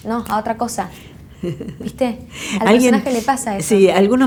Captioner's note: laugh